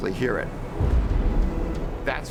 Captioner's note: sonic boom thunders